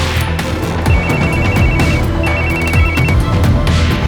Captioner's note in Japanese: 電話が鳴る